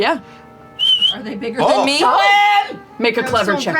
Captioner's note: whistles